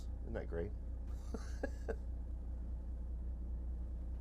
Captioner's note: laughing